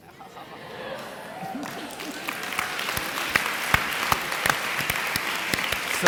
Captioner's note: audience clapping and applauding